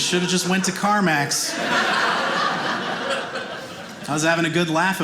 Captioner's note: audience laughing